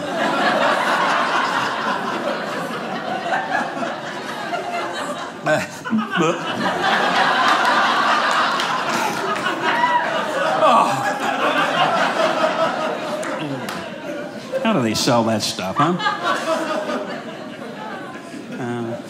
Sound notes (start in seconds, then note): 0.2 audience laughing; 5.8 gagging; 8.3 audience laughing; 16.6 audience laughing